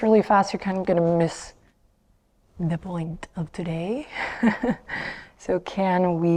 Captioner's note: laughs